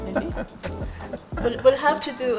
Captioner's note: laughs